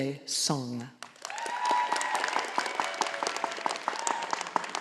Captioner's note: audience applauding